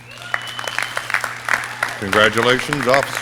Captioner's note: audience cheering